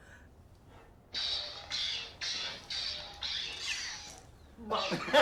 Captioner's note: phone whooshes